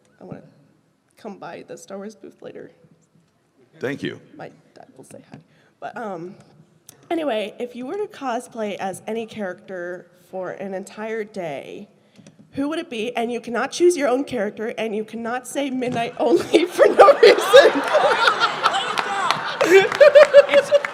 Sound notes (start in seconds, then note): 16.2 laughter; 16.3 laughing; 18.4 laughter + applause